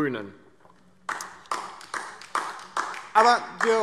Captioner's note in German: Beifall DIE LINKE